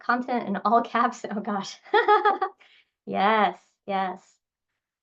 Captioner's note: laughs